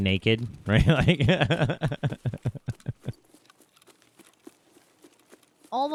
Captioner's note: laughs